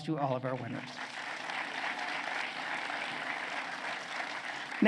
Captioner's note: applause